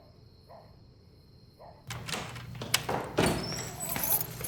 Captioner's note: dogs barking